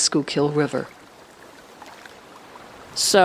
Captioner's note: river rushing